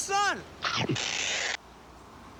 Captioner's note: chomp